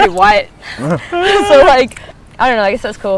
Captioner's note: giggling